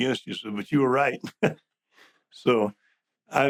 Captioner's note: chuckles